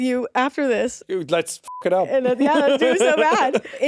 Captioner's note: beeps